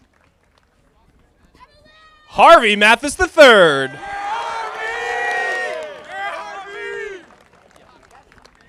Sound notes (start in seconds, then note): 4.1 audience applauding